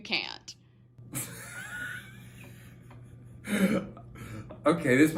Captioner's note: laughter